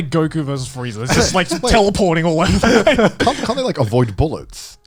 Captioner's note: laughs